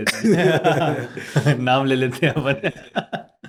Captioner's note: both laughing